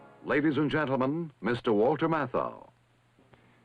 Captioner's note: voiceover